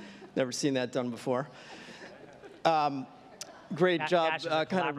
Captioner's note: audience laughing